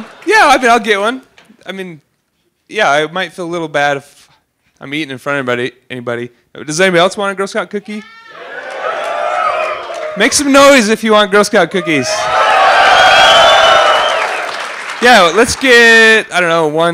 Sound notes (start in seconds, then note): 8.2 cheering; 11.7 louder cheering